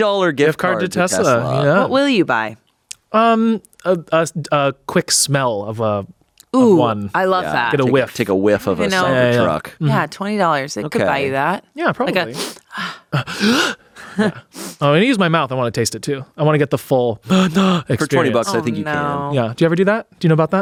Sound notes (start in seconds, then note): 12.2 inhales; 17.2 inhales